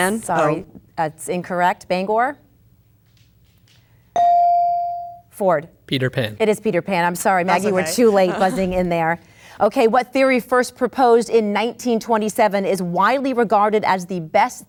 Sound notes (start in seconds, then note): 3.7 bell dings